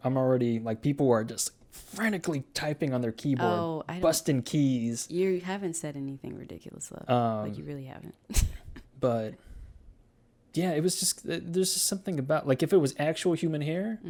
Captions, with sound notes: - I'm already, like people are just, frantically typing on their keyboard, busting keys. - You haven't said anything ridiculous, love. Like, you really haven't. (laughs) - But, yeah, there's just something about, like if it was actual human hair?